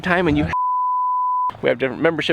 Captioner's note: beep